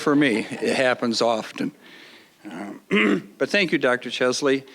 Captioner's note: audience laughing